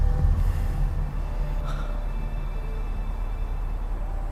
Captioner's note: gasps